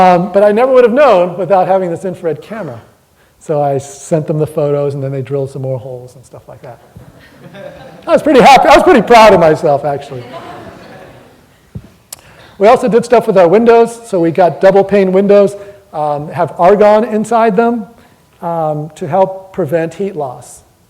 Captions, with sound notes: But I never would have known without having this infrared camera. So I sent them the photos and then they drilled some more holes and stuff like that. [audience laughing] I was pretty happy-- I was pretty proud of myself actually. [audience laughter] We also did stuff for the windows. So we got double-pane windows that have argon inside them to help prevent heat loss.